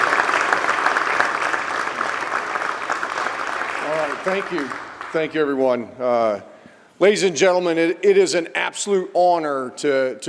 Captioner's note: applause